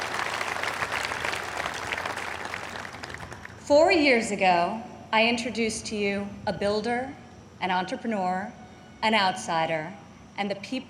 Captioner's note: applause